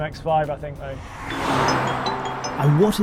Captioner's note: car whooshes